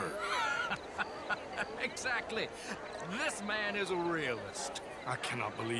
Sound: laughs

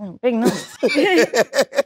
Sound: John laughing; chuckles

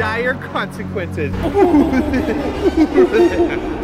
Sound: evil laughter; more evil laughter

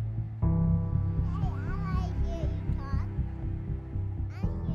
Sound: baby talking

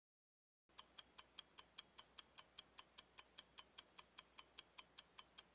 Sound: clock ticking sound

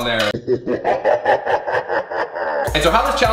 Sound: demonic laugh

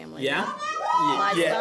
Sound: cheering

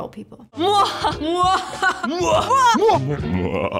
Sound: people laughing sinisterly

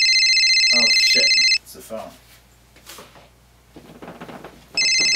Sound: phone rings

